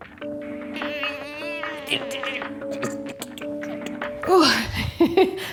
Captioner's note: grunting